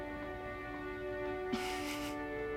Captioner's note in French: rires